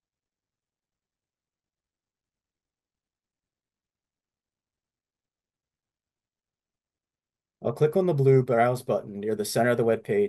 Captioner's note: silence